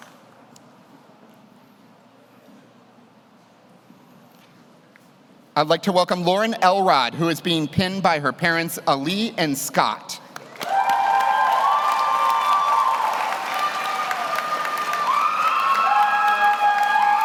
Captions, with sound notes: I'd like to welcome Lauren Elrod, who is being pinned by her parents, Ali and Scott. (audience cheers) (audience applauds)